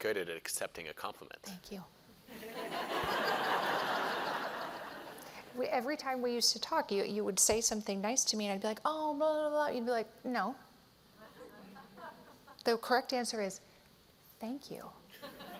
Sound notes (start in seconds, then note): 2.3 laughter